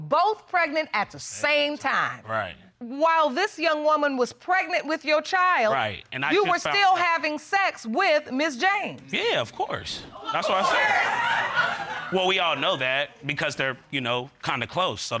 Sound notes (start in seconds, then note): 10.3 audience laughs